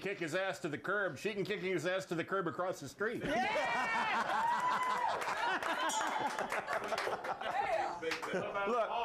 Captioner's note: bell rings; audience cheers